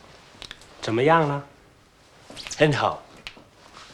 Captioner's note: speaking Chinese